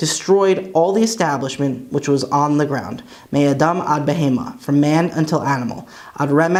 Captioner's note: Hebrew; Hebrew